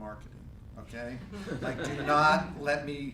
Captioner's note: laughing